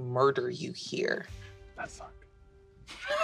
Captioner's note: whispers; laughter